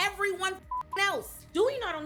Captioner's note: beep